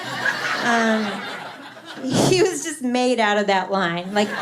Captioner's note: laughter; laughter